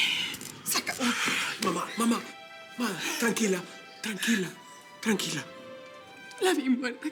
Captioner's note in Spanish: Chisporreteo